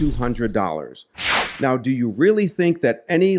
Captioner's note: whooshing sound